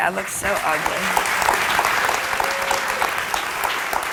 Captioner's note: crowd applauding